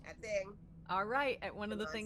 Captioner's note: none